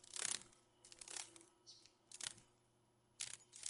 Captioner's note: sounds of a dragon fly